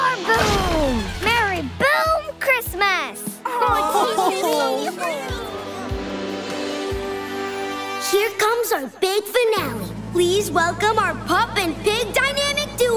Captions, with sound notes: And more boom! And more boom! Merry Boom Christmas! [guffawing] Here comes our big finale.